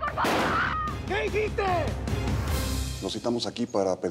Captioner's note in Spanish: Disparo